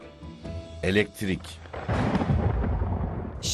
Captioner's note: thunder rumbling